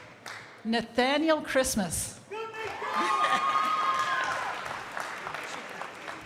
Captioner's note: crowd applauding